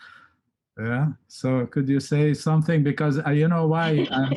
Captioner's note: laughs